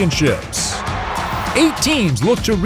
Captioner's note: crowd cheers